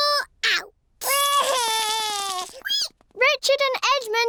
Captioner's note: cries